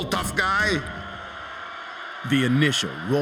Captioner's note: crowd cheering